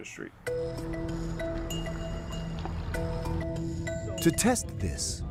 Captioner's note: lively music; water sloshing